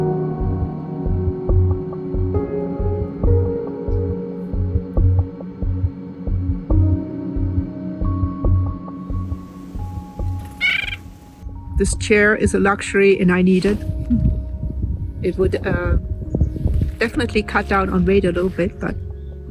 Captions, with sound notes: [Bird chirping] This chair is a luxury, and I need it. It would uh ... definitely cut down on weight a little bit, but ...